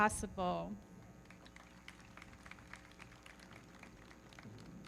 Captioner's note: everybody clapping